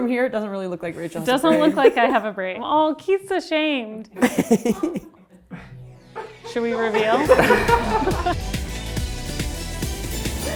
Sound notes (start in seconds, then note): 4.2 laughs; 6.2 everyone laughs; 8.4 upbeat music